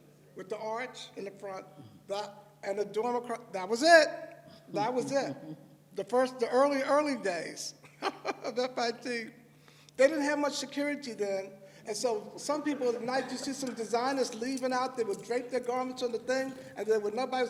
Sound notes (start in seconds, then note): 7.9 laughs